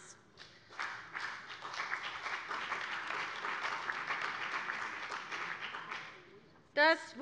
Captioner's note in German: Beifall bei der CDU und dem BÜNDNIS 90/DIE GRÜNEN